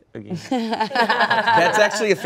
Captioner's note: everyone laughs